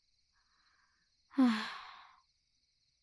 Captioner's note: sigh